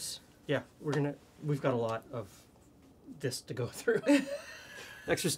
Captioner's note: both laugh